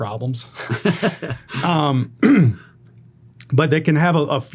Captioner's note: interviewer laughing